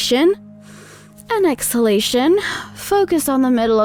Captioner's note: breathing sounds